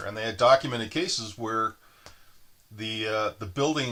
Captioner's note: none